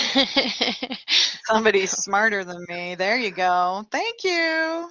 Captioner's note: laughter